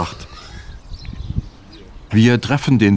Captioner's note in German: Vogelzwitschern